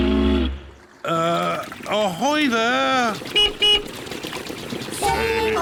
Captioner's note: toots horn; beeps horn